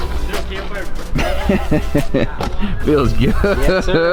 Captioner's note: laughing